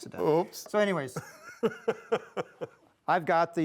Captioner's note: laughing